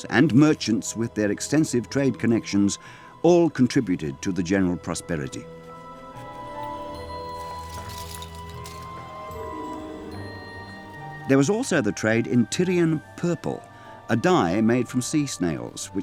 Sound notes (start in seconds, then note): 6.5 wondrous music; 6.8 metal clanking